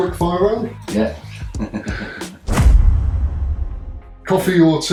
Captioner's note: laughing